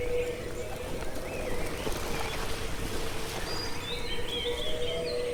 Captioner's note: wings flapping; birds chirping